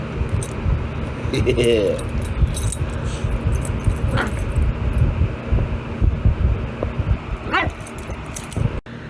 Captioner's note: Ella laughs, then barks